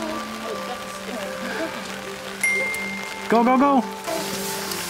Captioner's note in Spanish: Ding